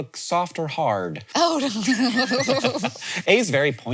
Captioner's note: both laughing